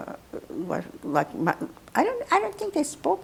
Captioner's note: mumbling